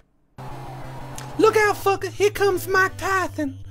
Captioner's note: high-pitched voice